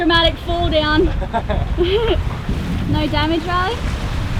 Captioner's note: laughter